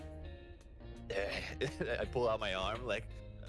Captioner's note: laughs